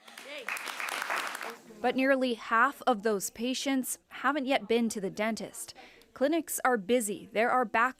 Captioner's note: applause